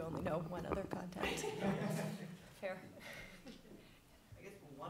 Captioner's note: laughter